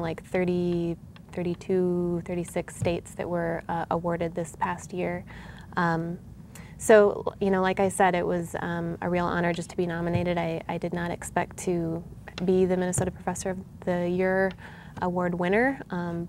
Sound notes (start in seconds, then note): none